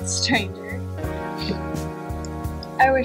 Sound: Landen laughs

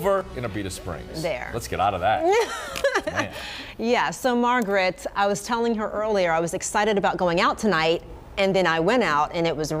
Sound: laughter

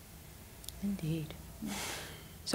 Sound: exhale

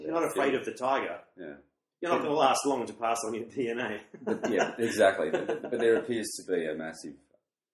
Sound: laughs

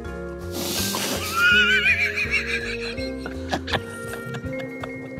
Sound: laughing

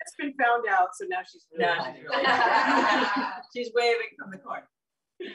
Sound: laughter

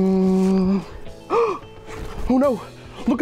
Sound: gasps

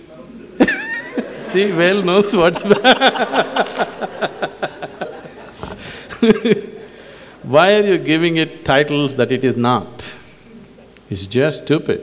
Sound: laugh

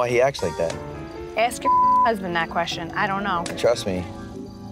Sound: beep

